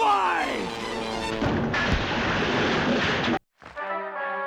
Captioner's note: crash